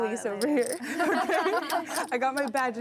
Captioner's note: laughing